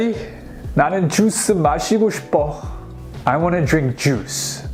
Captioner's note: speaks Korean